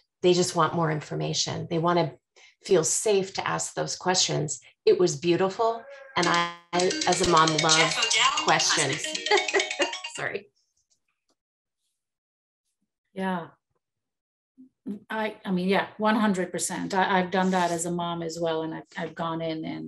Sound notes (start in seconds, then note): 8.4 laughs